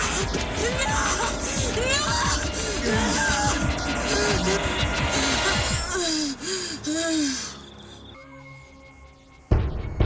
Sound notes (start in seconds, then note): 4.1 breathing heavily